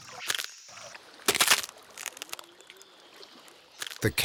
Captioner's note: bones crunching